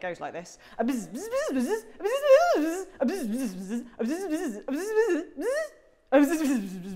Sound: fast bzzz repeated

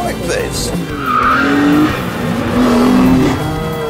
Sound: tire screeching

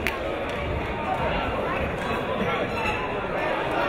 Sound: crowd talking

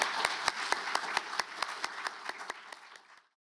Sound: applause

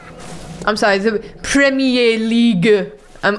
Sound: thick french accent

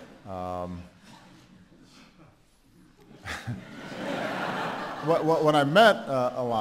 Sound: laughter

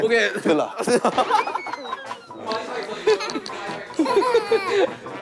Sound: laughing out loud

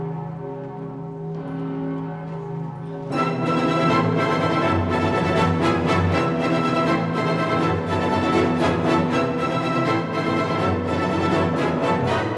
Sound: bell tolling

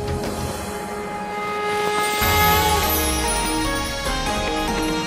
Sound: conch blows

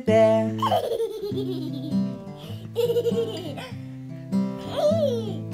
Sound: giggles

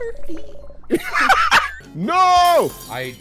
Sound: laughter

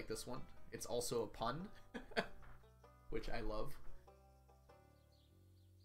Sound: laughs

